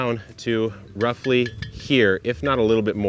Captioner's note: pot clanks